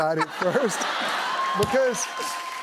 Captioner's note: laughter, cheering